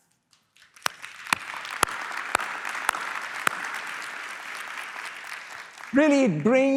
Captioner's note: applause